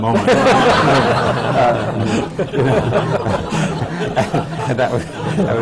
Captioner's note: laughter